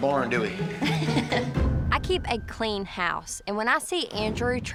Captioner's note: laughs